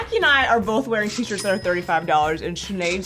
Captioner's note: cash register dinging